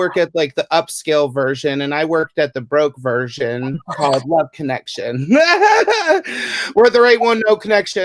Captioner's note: laugh!